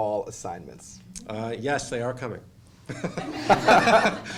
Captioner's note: laughter